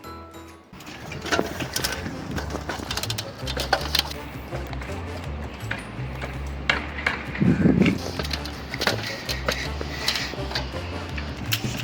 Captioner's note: ladder creaks and gasps